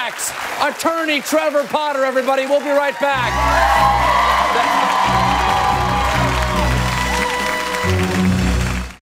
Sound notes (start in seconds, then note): 2.3 cheers, music